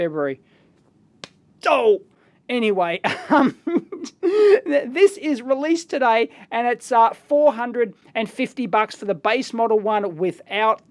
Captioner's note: +forehead slam sound